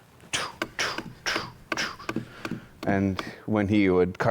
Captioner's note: tool banging